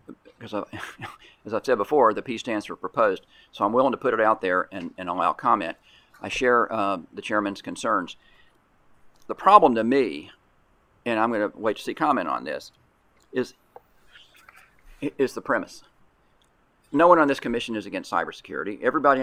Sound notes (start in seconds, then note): 0.7 scoffs